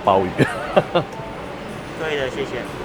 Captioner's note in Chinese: 笑聲